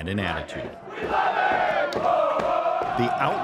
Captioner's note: fans chanting